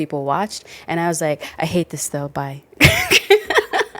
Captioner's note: laughs